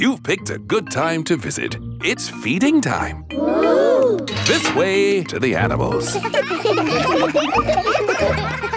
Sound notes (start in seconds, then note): 5.8 children laughing